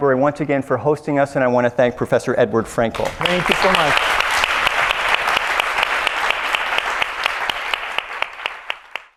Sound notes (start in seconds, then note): 2.9 audience applauding